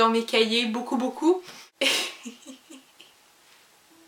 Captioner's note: laughs